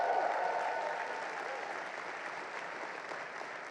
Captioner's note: crowd cheers; crowd applauds